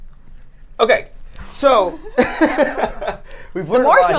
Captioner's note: laughing